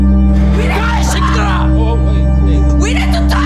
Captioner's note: screams; man screams